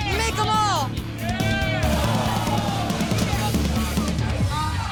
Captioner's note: patrons cheering